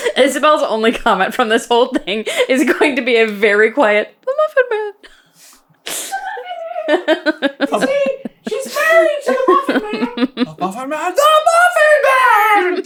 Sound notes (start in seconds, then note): 6.5 squeaky; 7.7 laughs